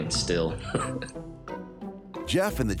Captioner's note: laughs